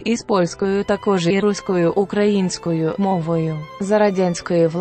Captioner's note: Ukrainian